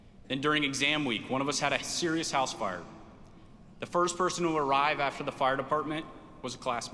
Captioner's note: none